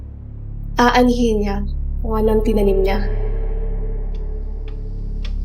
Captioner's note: voice echoes